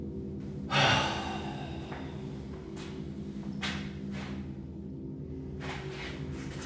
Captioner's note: Danny sighs; ominous music continues